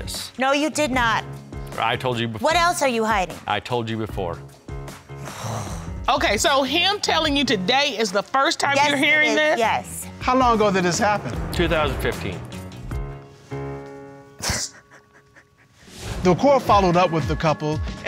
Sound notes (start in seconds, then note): 5.2 sighs; 14.1 crying